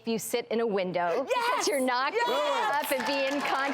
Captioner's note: audience applauding